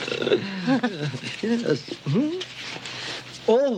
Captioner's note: chuckles